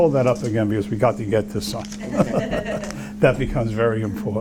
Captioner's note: laughter